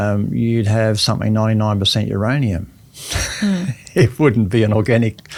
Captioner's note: laughs